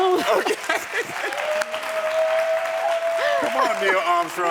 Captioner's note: audience cheering